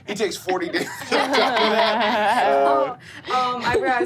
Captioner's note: all laughing